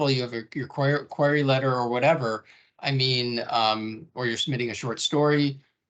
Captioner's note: none